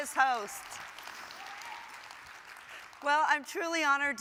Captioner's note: audience applause